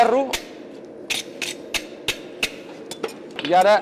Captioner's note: metal scraping against the brush